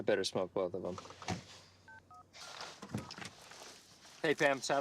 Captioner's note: phone beeping